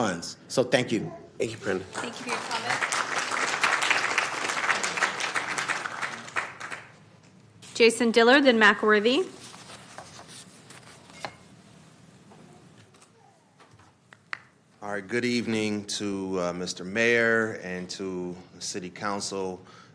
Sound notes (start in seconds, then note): 4.9 applause